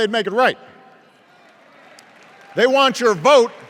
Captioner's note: applause